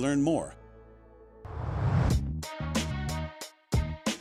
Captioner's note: whoosh